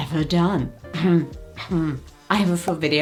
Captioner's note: host clearing throat